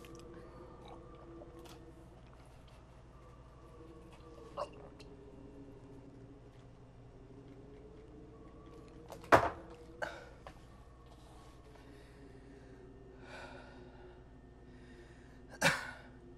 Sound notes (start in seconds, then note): 0.1 gulping; 7.9 glass bangs against wood; 13.8 deep exhale and cough